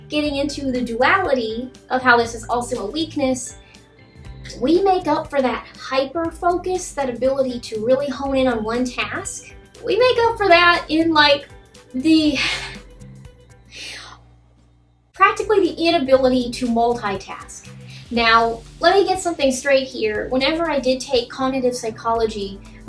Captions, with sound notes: getting into the duality of how this is also a weakness, we make up for that hyper-focus, that ability to really hone in on one task; we make up for that in, like, the *sigh* *chuckles* practically the inability to multitask. Now, let me get something straight here. Whenever I did take cognitive psychology,